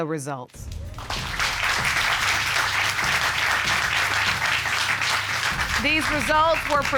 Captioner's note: applause